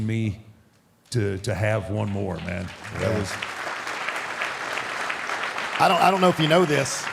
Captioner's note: audience applauding